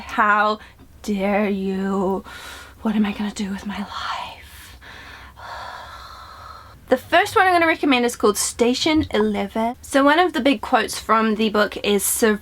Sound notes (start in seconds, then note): 4.5 heavy breathing